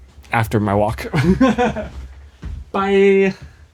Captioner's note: laughing